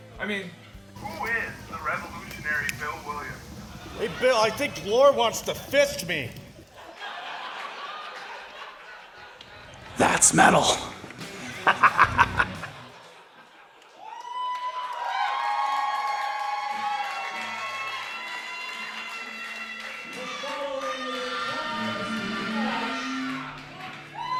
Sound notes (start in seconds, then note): 7.3 crowd laughing; 11.5 laughing; 14.6 crowd cheering